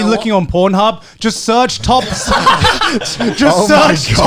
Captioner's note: all laughing